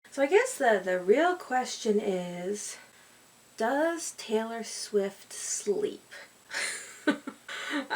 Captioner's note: laughs